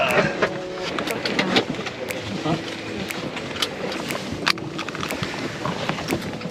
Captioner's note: seatbelts click